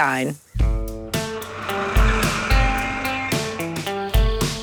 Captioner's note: tractor engine